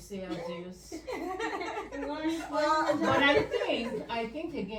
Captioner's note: laughs